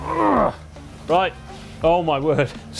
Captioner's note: groans